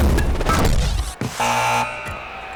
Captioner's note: buzzer sounding